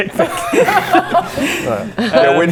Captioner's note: tiny laughter